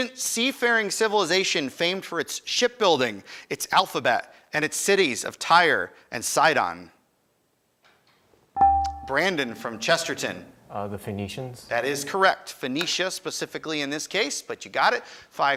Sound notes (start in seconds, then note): 8.6 buzzer chimes